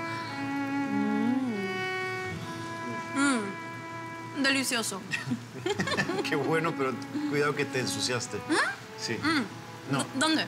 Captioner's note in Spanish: Risas